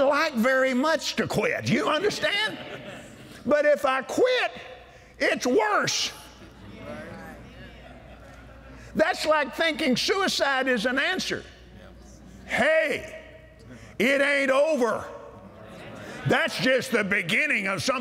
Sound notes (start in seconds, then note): 5.8 audience Agrees; 15.4 audience Agrees